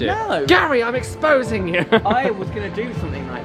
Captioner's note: laughs